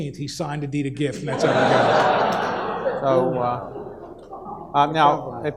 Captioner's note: audience laughs